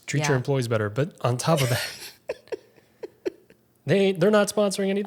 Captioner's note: laughing